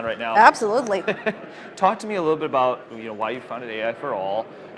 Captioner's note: laughs